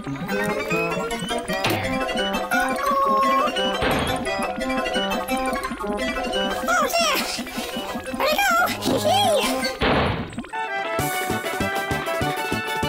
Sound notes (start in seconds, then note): 0.2 music speeds up; 3.7 bang!; 9.8 bang!